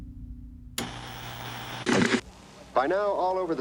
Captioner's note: television static hissing